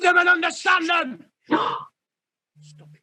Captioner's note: gasp